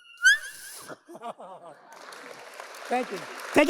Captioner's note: audience laughs